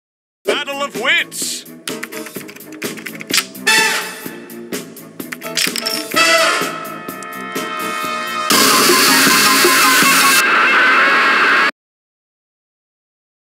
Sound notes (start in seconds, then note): 1.9 typing